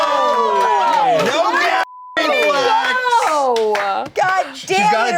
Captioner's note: beep